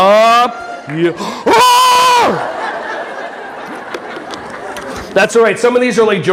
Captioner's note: audience laughing, yells aawww